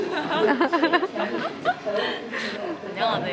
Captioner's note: an embarrassing laugh